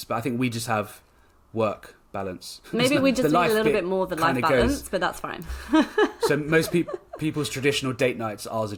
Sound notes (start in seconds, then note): 5.6 laughs